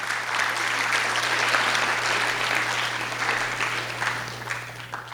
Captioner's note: audience claps